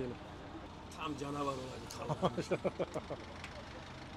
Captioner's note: laughings